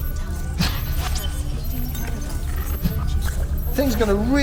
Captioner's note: alarm blaring